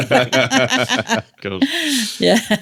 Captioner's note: laughing